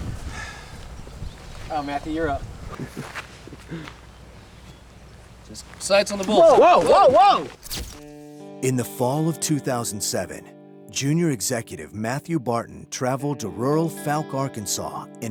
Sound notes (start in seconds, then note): 2.6 laughs